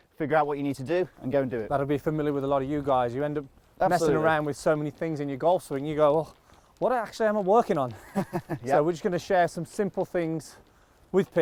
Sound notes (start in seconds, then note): 8.0 laughing